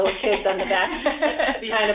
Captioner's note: laughter